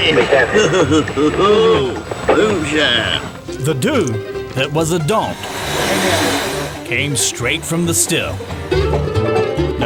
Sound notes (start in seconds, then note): 5.4 hissing